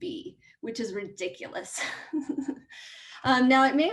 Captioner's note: laughs